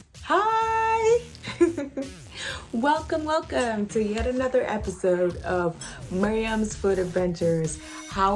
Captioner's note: chuckles